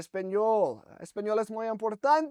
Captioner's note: speaking In Spanish